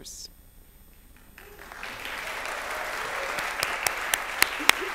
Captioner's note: applause